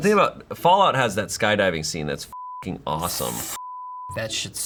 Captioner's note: beep